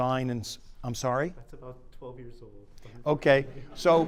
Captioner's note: laughter